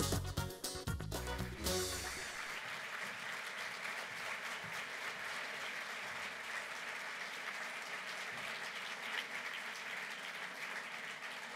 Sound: applause

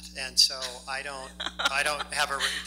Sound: laughs

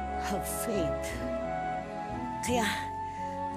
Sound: none

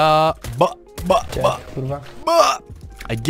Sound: realistic gun shot sound effect.mp3

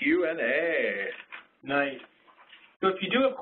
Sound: voiceover

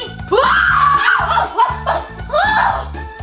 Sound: screams

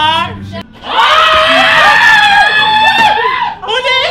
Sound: screams

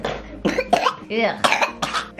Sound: coughing

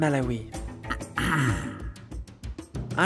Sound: ahem

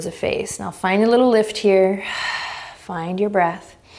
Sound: exhaling strongly

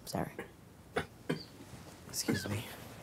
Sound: dad coughing

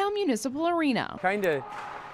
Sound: puck hitting the wall

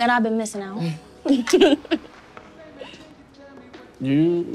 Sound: Jemma and Jake giggling

